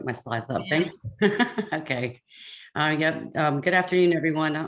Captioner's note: laughs